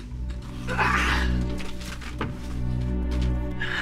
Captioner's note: groans